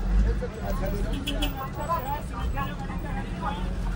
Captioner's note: honking